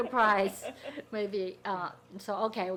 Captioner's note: people laughing